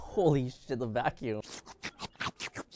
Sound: slurping

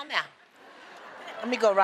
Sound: laughter

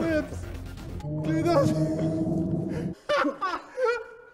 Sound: Behemoth sounds; laughter

